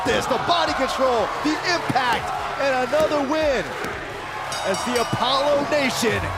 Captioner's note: bell ringing